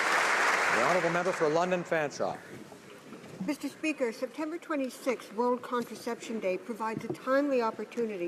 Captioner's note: applause